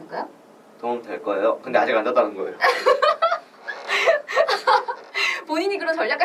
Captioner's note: laughs